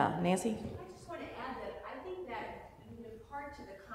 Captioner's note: voiceover